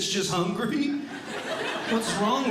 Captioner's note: audience Laughing